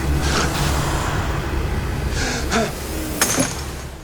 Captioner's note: gasp